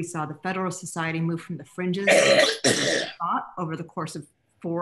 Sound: coughs

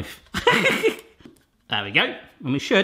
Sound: laughs

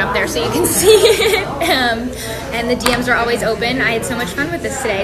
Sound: laugh

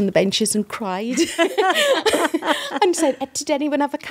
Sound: all laughing

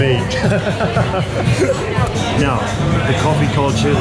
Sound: laughing

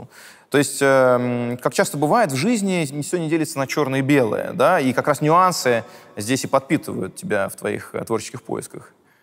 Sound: none

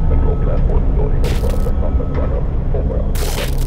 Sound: Muffled CP chatter

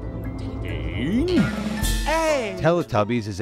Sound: Teletubby groans

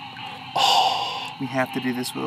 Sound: gasps

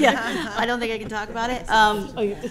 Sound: laughter

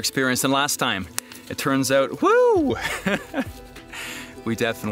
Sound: laughs

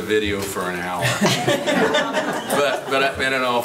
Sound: crowd laughing

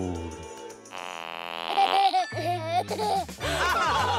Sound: giggling; farts playing over recording

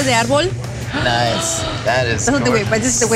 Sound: gasping

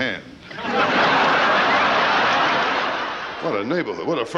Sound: audience laughing

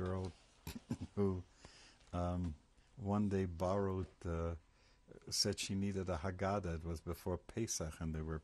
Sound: laughs

